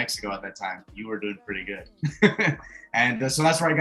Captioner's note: laughs